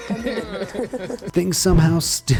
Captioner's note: hosts laugh